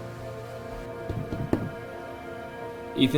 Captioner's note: knocking